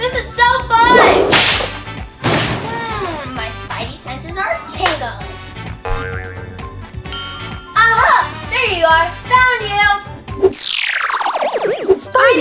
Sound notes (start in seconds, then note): 0.9 whip cracks; 2.2 car crashes; 5.8 elastic boings; 7.1 glass clinks